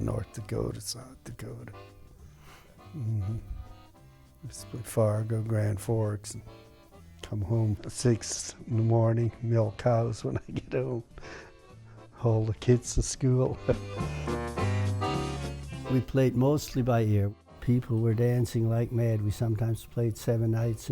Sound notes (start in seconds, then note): 16.2 laughs